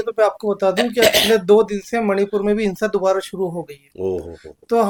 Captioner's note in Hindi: गला साफ़ करने की आवाज़